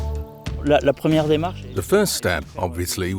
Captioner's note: energetic music; speaking French